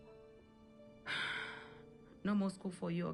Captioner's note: Neria exhales